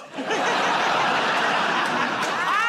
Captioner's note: laughter